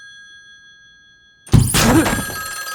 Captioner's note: gun with silencer goes off